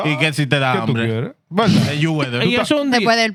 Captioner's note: speaking Spanish